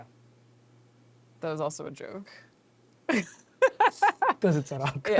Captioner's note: laughs